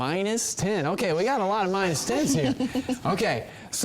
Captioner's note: girls laugh